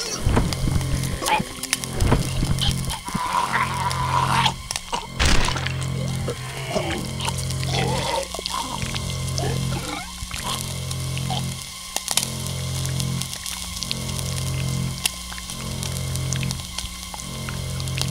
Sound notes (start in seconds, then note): 0.0 flesh sizzling; 0.3 zombies choking; 3.3 zombie moaning; 5.0 flesh popping; 9.2 steam hisses; 12.1 bones cracking